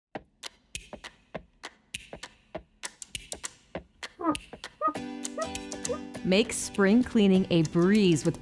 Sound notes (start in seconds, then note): 0.6 bright upbeat music; 4.5 glass squeaking